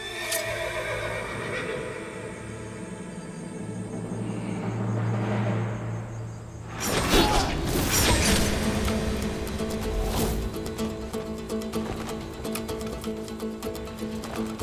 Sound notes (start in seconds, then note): 8.2 Hançer sesi; 9.7 Müzik - Dombra